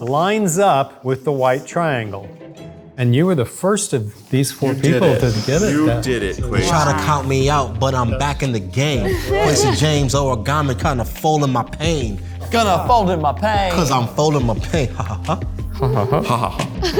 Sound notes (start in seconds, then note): 14.7 mimic laugh; 15.7 fake laughs